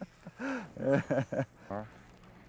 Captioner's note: laughter